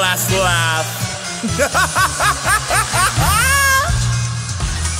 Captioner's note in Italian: Risata maniacale